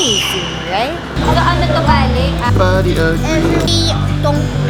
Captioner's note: familial chatting